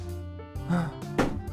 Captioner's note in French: soupirs